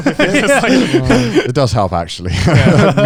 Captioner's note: Joey and Garnt laughing